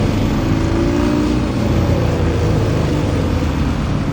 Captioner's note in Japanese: バイクの音